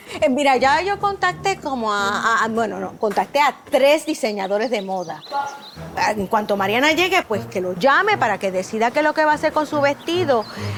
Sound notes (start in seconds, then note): 5.3 monchin moans